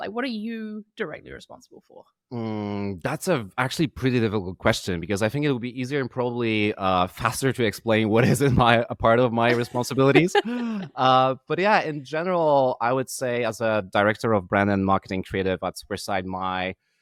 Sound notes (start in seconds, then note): 9.4 laughing